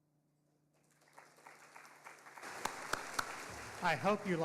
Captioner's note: audience applauding